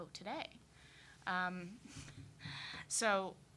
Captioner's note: laughing